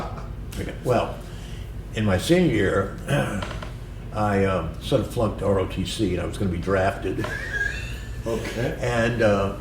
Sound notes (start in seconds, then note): 7.2 laughter